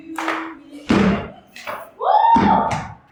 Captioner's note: laughter